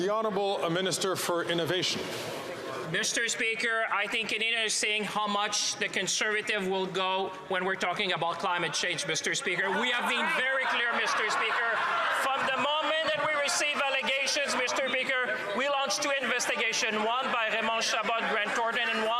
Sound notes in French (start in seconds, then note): 8.9 voix de l'interprète